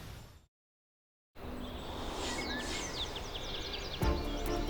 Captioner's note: birds Chirping